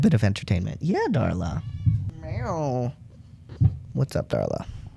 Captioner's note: Darla meows